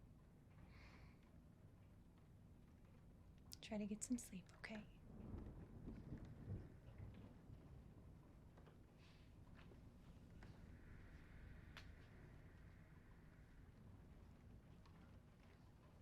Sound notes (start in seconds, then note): 5.1 thunder rumbles gently; 14.3 rain pattering